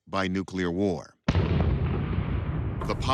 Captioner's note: explosion rumbling